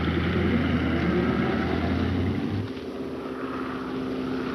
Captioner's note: engine revving; engine droning